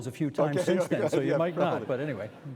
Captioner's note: chuckling